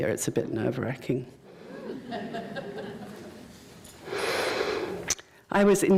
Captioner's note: laughter